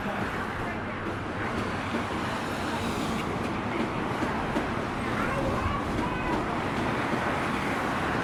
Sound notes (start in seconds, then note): 2.5 overhead train passing